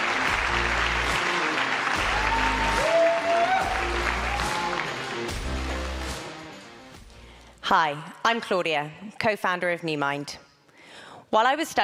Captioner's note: applause